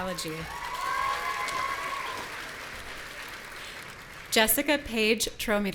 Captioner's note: audience cheering